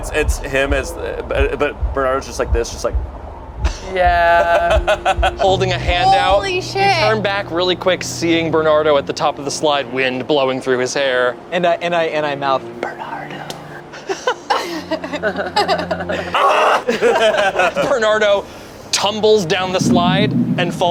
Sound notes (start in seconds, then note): 3.6 laughs; 13.9 group laughs; 16.4 yells